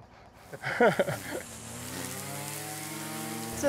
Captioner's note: laughs